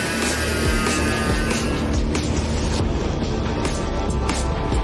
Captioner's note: power tools buzzing